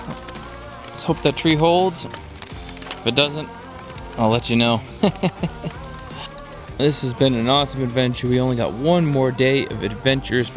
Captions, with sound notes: let's hope that tree holds. If it doesn't, I'll let you know. (man laughs) This has been an awesome adventure. We only got one more day of adventure